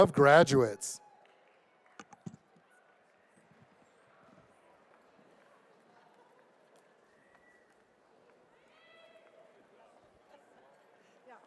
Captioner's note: applause